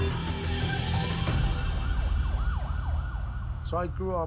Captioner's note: sirens